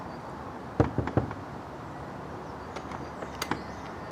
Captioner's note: knocking